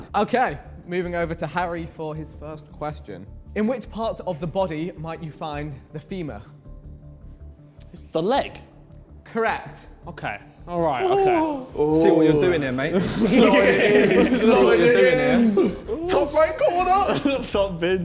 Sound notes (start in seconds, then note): 10.7 men exclaiming; 13.5 men laughing